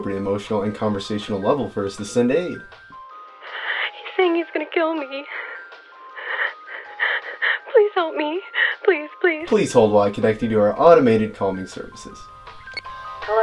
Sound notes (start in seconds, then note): 6.2 crying